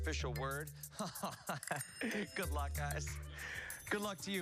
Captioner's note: laughter